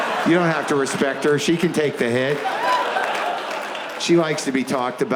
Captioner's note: audience laughs